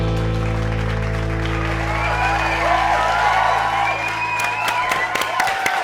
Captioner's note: applause